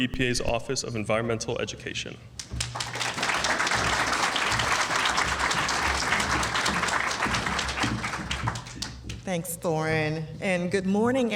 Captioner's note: applause